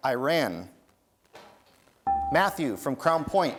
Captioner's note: dinging